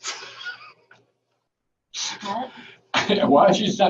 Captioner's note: laughing